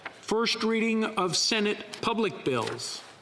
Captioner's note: speaking French